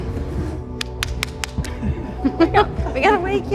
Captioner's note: slapping her leg